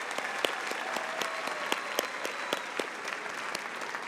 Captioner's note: applause